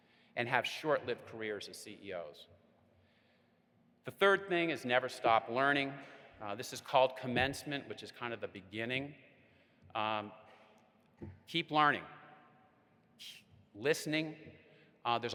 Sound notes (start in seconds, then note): none